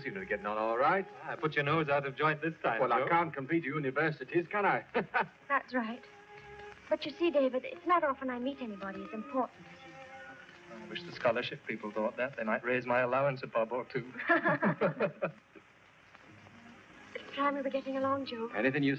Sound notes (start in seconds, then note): 12.2 all chuckling